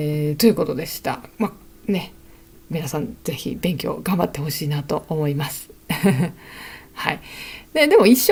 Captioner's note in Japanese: 笑い